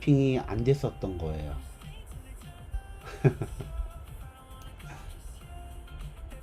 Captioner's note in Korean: 웃음